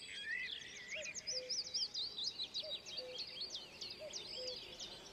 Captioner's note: cuckoo calls